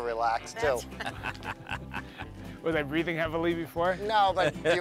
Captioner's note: laugh